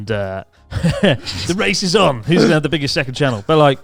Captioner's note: chuckling